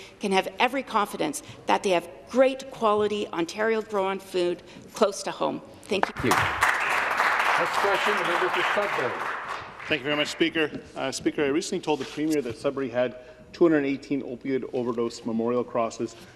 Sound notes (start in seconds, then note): 9.8 applause